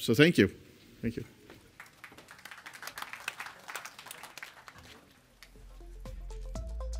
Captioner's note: applause